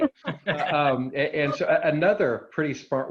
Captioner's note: laughing